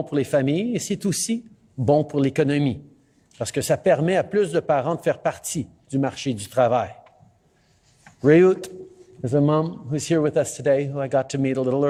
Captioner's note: speaking French